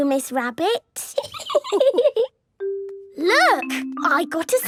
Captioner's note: laughing